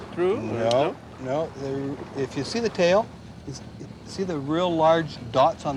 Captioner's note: water splashing